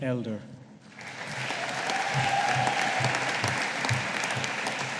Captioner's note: audience applauding